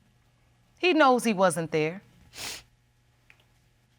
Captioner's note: sniffles